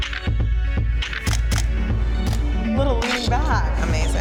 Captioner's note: upbeat music; camera snaps repeatedly